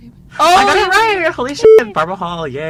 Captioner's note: beep